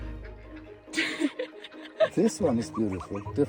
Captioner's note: ducks quacking; person laughing